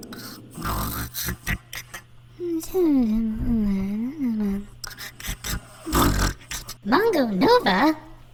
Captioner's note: Nova snoring and mumbling